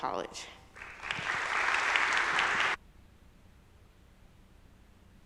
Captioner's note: crowd applause